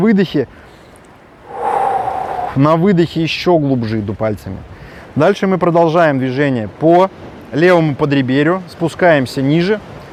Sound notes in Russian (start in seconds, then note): 1.4 выдох